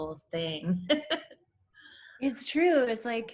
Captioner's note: laughs